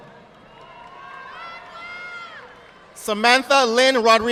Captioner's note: audience applauding